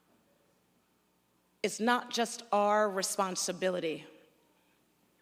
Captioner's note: none